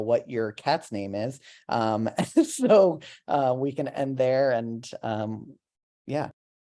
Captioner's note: laughter